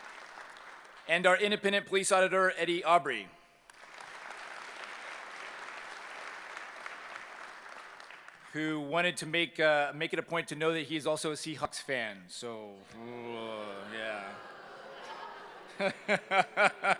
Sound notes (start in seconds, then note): 3.6 applause; 12.9 moans; 15.7 laughter